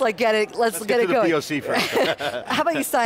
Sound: laughs

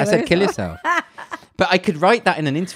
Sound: laughs loudly

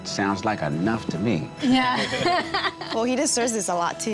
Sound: laughing

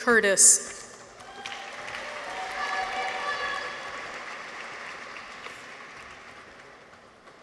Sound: audience applauds; people cheer

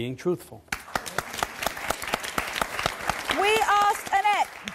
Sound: audience applause

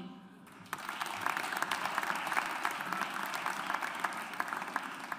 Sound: audience applauds

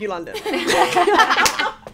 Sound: all laughing

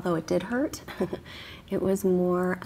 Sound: chuckles

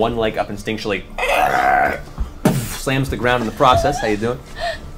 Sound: growls

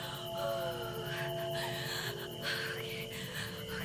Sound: Allie groans

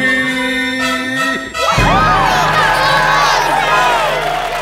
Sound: cheering

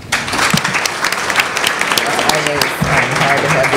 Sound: applause

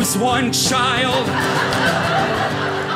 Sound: audience laughing

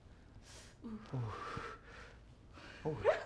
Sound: laughing

